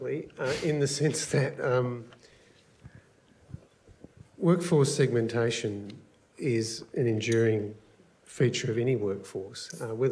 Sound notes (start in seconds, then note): none